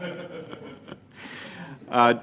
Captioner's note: laughter